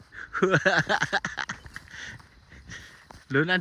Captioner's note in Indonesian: tertawa